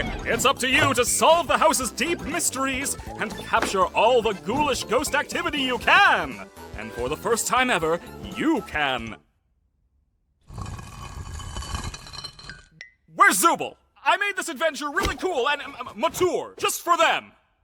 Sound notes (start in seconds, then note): 10.5 gritty scraping